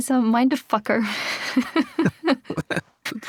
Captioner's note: laughter